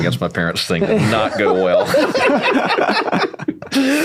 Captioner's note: laughing